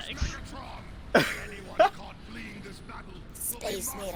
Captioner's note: laughs